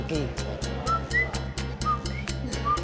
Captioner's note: whistling